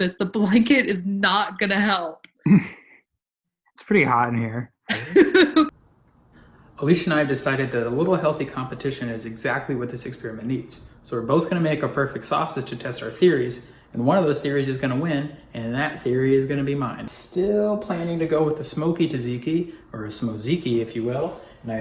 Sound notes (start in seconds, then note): 2.4 laughs; 4.9 laughs